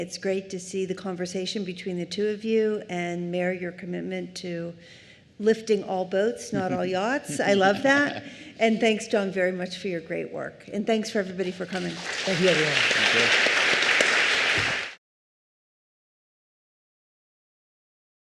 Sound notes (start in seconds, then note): 13.9 applause